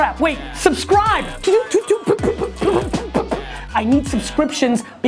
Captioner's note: staccato utterances